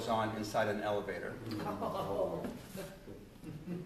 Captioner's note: laughter